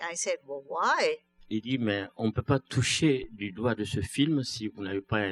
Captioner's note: speaking french